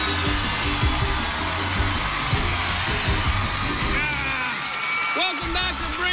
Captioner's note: cheers and applause